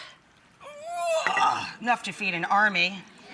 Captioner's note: grunts